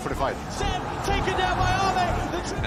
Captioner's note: crowd cheering